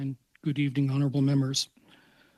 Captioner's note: speaking French